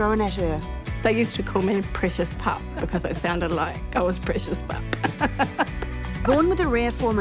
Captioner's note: chuckles